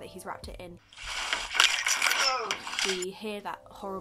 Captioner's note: body crunches